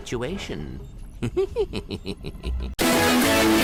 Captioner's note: laughs